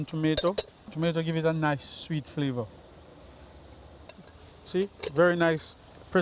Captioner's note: pot lid clanking